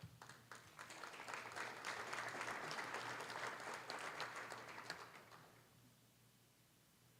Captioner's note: applause